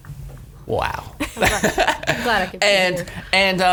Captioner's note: laughs